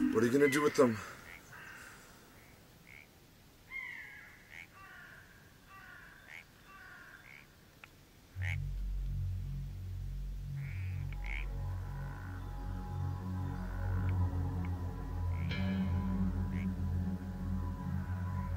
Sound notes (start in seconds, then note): 5.7 birds call; 14.3 eerie music begins